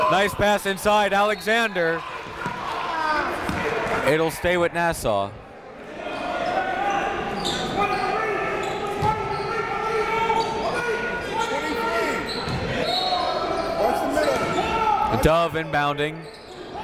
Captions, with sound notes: Nice pass inside, Alexander. It'll stay with Nassau. (crowd talking) (coaches yelling) Dove inbounding.